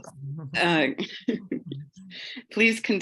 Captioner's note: laughs